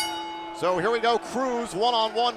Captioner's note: bell